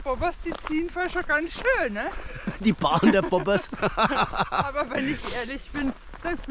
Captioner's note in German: lacht